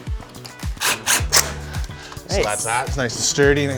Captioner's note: drill whirs